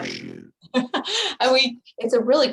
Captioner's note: laughing